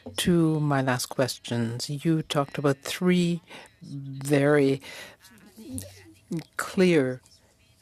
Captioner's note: speaking French